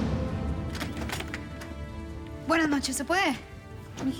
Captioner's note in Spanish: Sonido al abrir la puerta